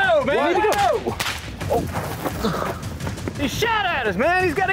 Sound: gunshots

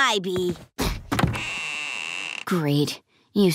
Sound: creaking

